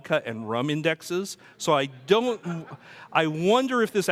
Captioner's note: audience laughs